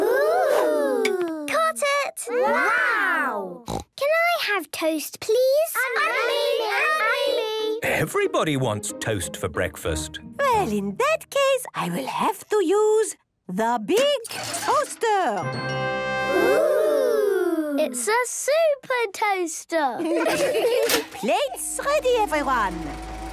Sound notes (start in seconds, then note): 6.0 all calling out; 21.0 clicks